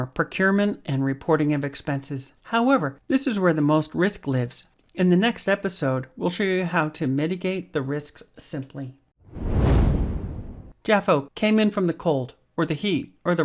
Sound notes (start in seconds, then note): 9.2 air whooshing